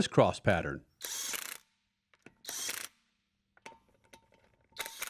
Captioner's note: gun whirring